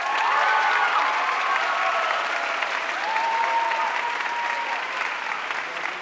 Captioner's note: audience cheering and applauding